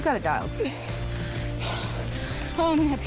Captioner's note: panting